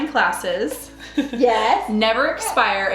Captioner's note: giggles